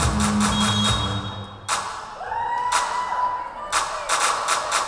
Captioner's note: whistle blowing